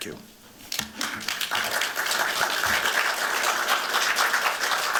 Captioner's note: applause